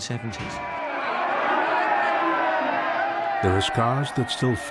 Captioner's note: crowd shouting